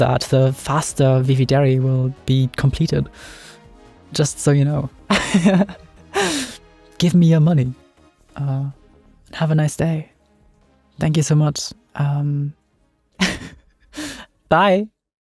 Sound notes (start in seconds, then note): 5.1 laughs; 13.2 laughs